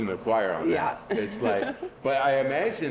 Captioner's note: giggling